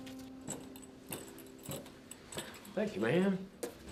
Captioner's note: spurs jangling